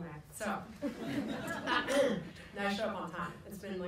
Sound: people laugh

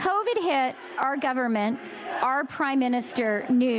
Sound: chanting

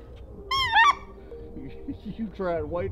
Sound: goose call

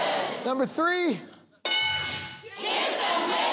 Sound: bell dings

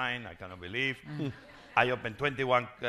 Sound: crowd laughing

